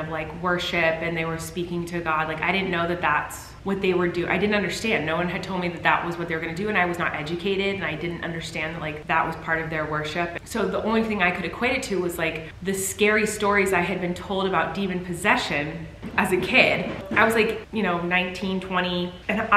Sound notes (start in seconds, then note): none